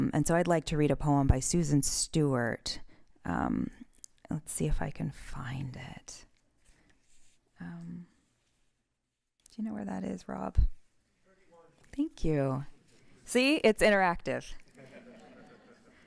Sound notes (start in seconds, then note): 14.7 laughter